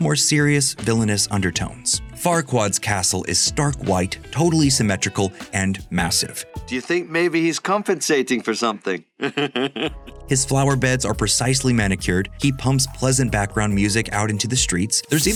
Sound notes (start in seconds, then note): 9.2 laughs